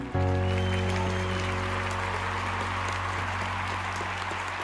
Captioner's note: audience claps